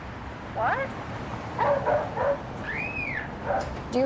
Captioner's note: dog barking; children screaming